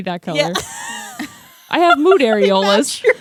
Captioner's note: laughs